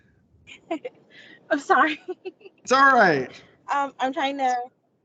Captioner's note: chuckles